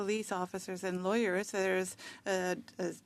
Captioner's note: speaking French